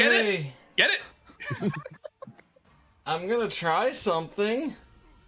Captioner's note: laughter